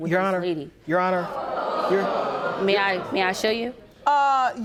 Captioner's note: audience gasping